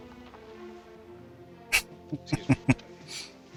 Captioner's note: chuckling